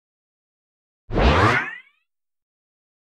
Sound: sound of zoom

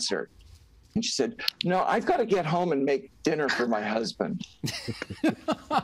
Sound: laughter

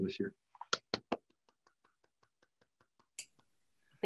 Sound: claps

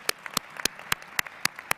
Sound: applause

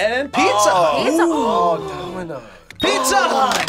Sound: gasps; both gasp

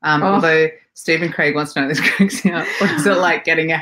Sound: laughing

